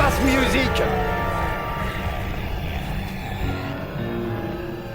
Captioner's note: zombies groaning